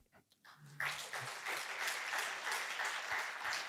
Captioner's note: applause